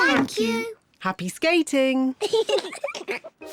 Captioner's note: giggles